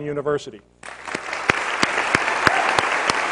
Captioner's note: applause